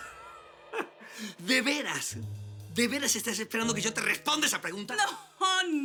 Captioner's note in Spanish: Risas